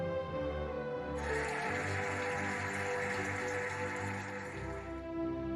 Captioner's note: cheering and applauding